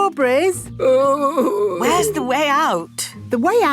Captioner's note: groaning